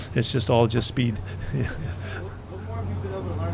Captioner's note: laughs